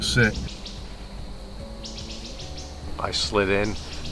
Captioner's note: birds chirping